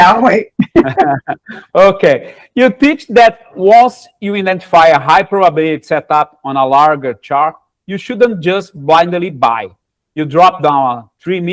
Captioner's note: laughter